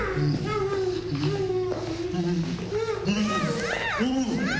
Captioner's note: Ema groaning